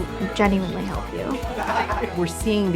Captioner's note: student laughing